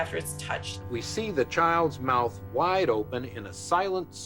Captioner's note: soundbite of documentary, "the silent scream"